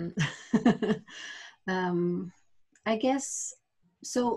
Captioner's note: laughs